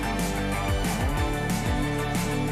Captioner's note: none